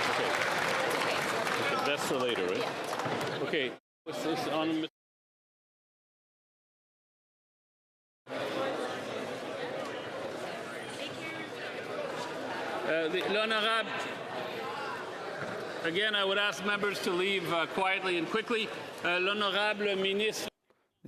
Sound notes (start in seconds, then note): 2.9 applause